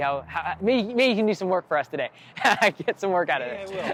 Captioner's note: laughs